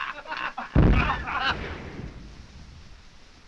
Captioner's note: bombs exploding